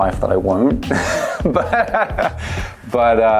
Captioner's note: laughs